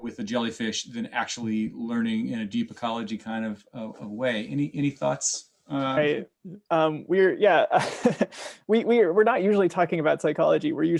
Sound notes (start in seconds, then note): 7.7 laughing